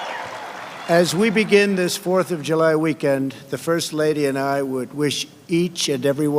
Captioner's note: applause